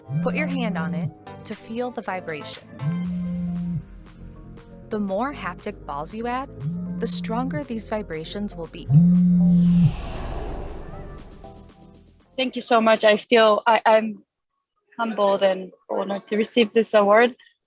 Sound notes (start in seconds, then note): 9.2 air swooshing